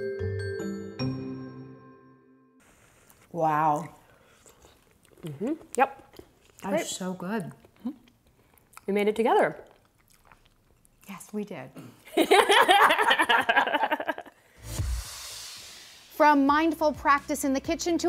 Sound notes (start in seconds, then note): 12.1 both laughing; 14.7 upbeat music